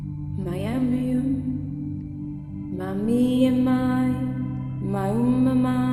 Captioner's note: speaking in foreign language